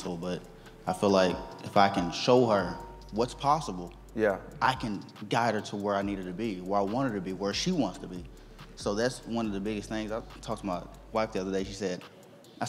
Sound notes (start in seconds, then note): none